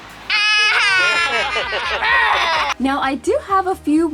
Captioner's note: laughing